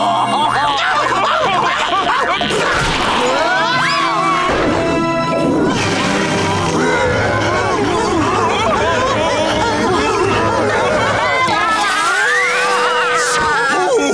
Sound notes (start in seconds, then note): 0.3 screaming; 8.0 whimpering; 11.2 screaming; 12.9 laughing